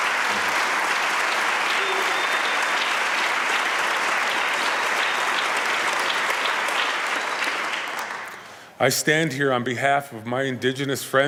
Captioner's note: applause